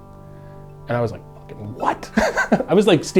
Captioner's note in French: en riant